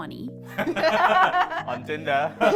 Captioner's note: laughing